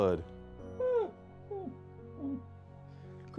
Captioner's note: Edgar makes high-pitched noises